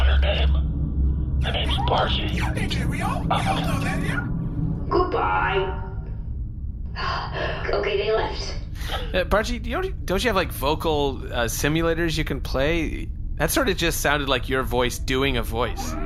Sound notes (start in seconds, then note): 0.0 whispering; 2.0 quietly; 4.2 whispering; 5.2 fake cockney; 6.5 dropping the accent, relieved